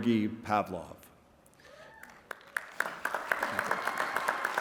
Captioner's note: applause